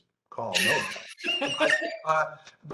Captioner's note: laughs